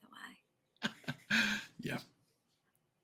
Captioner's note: laughing